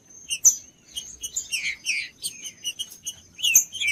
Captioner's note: trinca ferro cantando